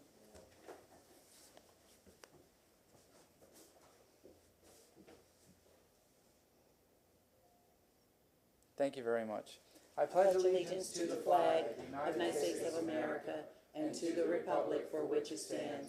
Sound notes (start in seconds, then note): 2.9 moment of silence